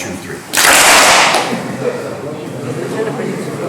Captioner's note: clap